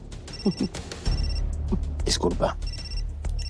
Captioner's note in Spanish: Suena el celular